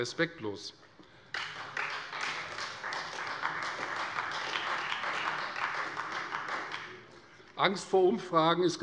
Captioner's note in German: Beifall Freie Demokraten